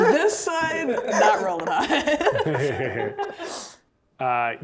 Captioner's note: players laughing